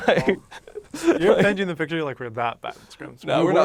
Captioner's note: laughs